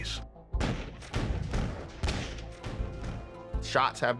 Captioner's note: shots firing